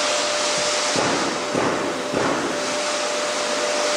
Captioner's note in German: Klappern